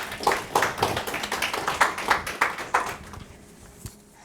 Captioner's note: audience applauding